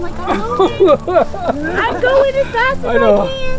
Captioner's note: person laughing